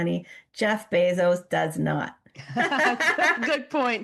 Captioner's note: both laugh